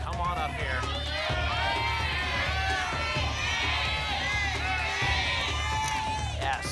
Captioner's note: audience shouting letters